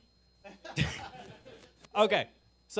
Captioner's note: audience laughing